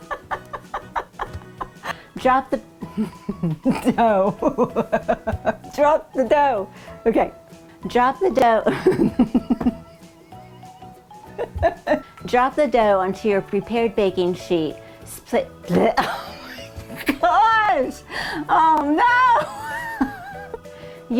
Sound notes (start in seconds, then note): 0.0 laughing; 9.6 voice crack; 11.2 laughing